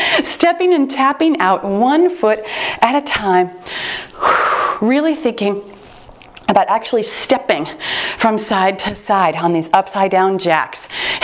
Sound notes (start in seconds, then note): 3.5 exhales